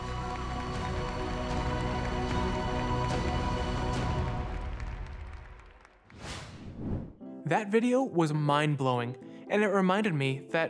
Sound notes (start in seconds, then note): 0.0 uplifting music; 1.8 audience applauding